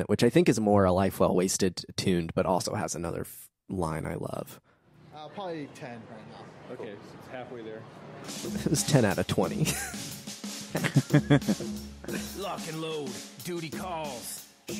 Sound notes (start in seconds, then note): 10.7 laughing